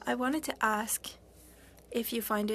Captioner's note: speaking FRENCH